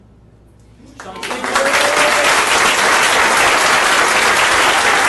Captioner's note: audience applauding